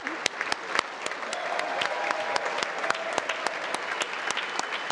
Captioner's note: congress applauding